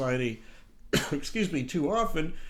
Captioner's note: coughs